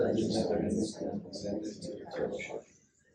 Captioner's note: inductees repeat